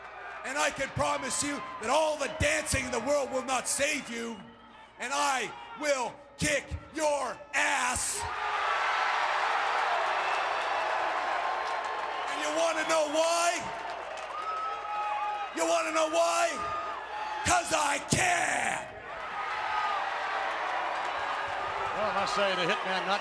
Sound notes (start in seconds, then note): 8.3 applause; 19.0 applause